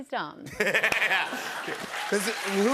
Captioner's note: laughs